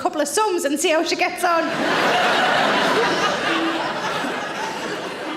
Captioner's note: audience laughing